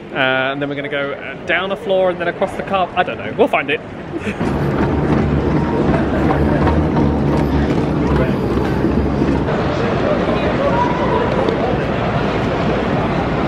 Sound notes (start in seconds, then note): 4.0 moving walkway rumbling; 8.4 commuters chatting indistinctly